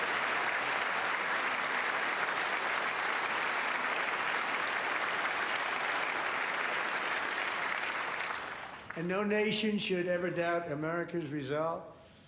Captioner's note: applause